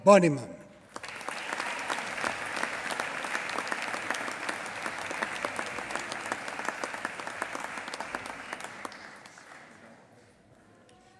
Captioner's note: applause